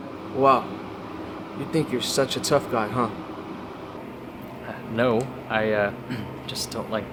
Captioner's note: clears throat